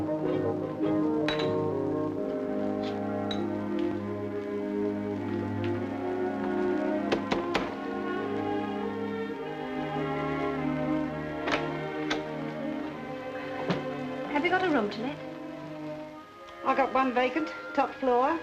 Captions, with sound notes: [gentle music] [knocking] Have you got a room to let?